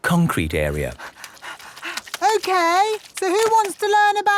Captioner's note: panting